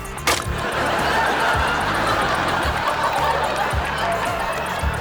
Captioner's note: audience laughs